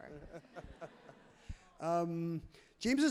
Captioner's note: laughs loudly